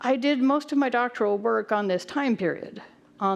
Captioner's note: none